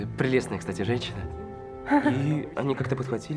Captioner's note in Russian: смешок